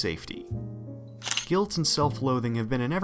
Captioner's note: camera shutter